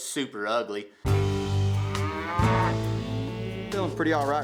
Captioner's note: cattle moo